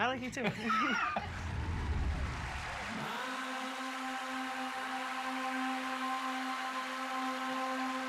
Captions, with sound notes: -I like you. -I like you, too. [laughter]